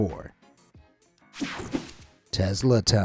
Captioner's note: air whooshing